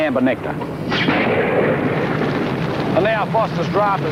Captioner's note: lightning thunders